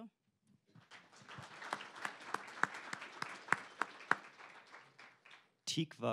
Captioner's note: applause